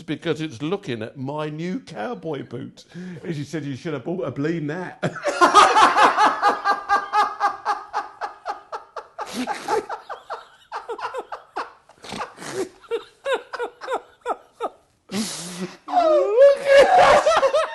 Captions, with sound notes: "It's because it's looking at my new cowboy boots." And she said, "You should've bought a bleedin' hat." (Ainsley and hysterically laughing) (Ainsley snorting)